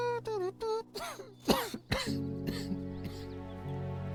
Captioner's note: humming; coughing